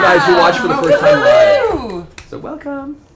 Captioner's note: cheering